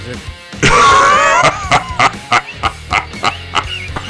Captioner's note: enormous wheezing laugh